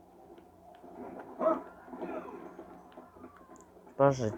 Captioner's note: creepy music; people talking